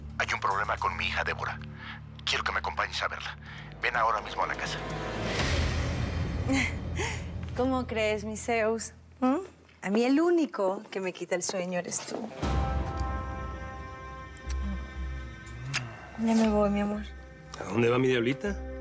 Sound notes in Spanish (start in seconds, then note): 7.3 risa nerviosa